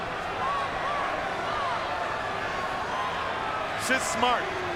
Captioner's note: crowd shouting